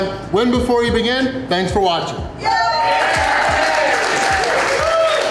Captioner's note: crowd cheering